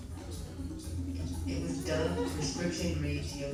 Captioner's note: audience laughs